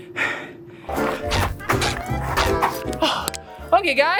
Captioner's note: shoes squeaking